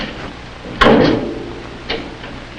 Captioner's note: locker slams